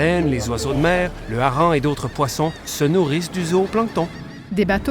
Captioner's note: seagulls cawing